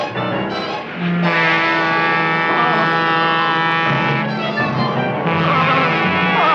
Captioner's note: train horn blaring; Seymour exclaiming